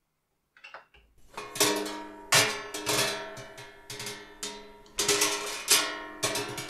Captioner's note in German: Töpfe klirren